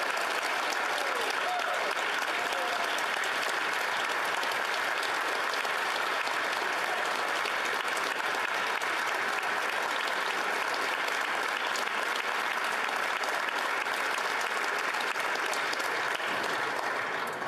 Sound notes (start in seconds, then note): 2.9 applause